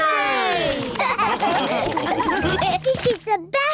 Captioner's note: all laugh